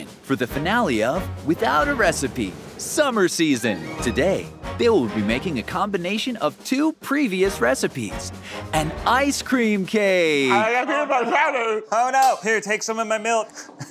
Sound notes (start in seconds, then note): 10.7 mumbling